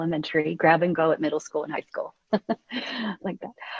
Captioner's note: laughs